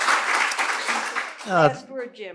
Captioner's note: applause